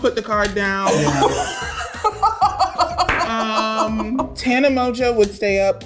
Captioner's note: laughing